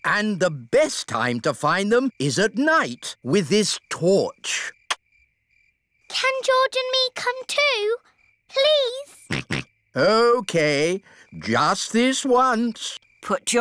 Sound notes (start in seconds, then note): 9.2 snorts